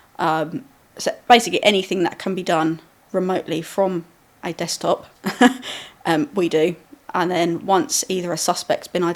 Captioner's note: laughing